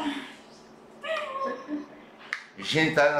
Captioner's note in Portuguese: murmúrio de ansiedade